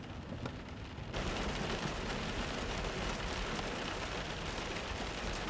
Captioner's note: rain drops dripping